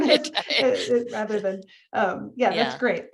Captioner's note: laughs